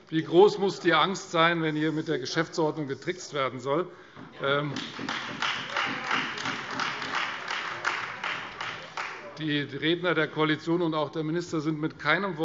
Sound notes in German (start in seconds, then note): 4.7 Beifall Freie Demokraten und vereinzelt AfD